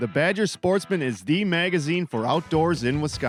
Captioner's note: voiceover